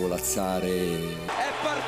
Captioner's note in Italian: Applauso